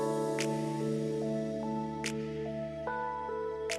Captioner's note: fingers snapping